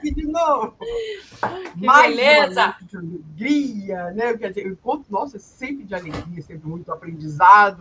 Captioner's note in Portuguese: limpando a garganta